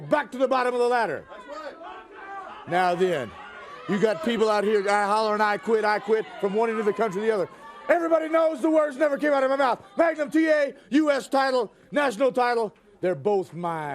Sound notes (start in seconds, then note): 8.4 crowd chatter